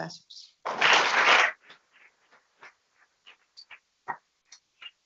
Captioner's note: people clapping